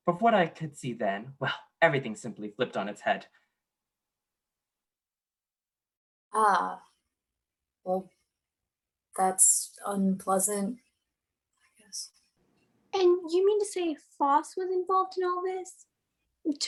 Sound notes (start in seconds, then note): 11.0 hushed